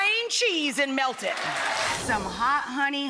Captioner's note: audience applauds